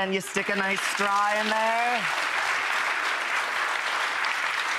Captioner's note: audience clapping